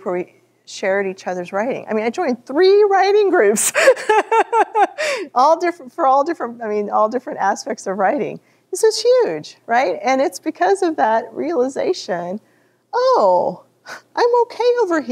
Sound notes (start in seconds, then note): 3.6 laughter